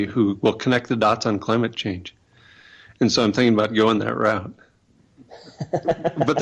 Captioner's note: laughter